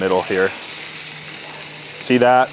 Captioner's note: steak sizzling